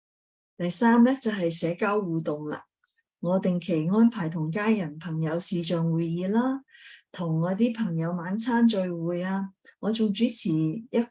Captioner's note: speaking chinese